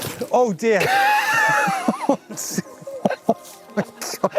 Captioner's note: laughing